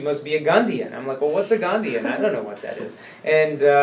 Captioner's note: laughs